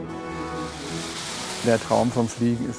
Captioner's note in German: Rascheln